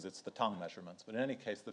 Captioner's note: speaks in foreign language